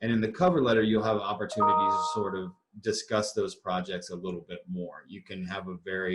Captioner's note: notification